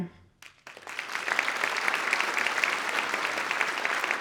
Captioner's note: audience applauds